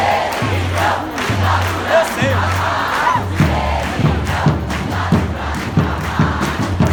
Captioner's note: people shouting